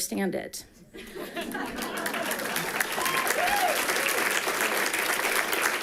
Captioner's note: people giggling and clapping